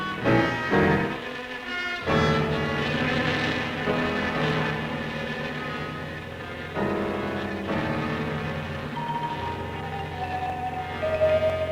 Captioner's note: buzzing